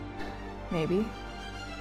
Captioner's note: exhaling